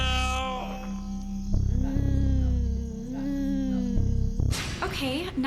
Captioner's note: gulps